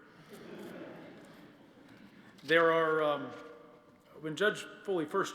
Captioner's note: laughter